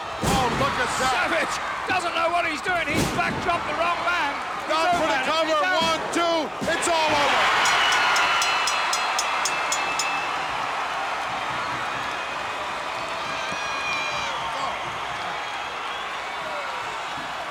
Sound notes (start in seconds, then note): 7.4 bell rings; 8.6 crowd cheers